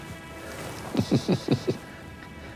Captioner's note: chuckling